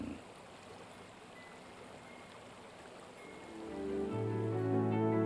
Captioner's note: raining; synthesized music